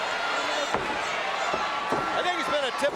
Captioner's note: audience cheering